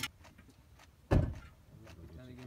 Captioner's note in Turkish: Geviş getirme sesi